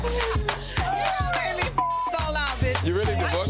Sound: beep

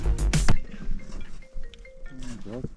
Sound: phone rings

